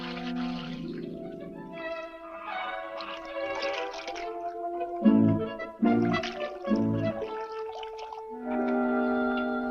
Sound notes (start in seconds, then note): 0.0 water splashes; 0.0 bright orchestral music